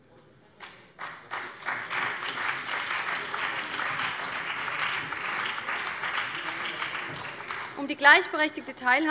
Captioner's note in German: Beifall BÜNDNIS 90/DIE GRÜNEN und CDU